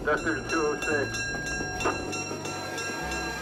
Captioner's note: radio; train bell ringing